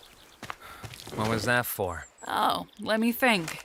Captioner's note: sighs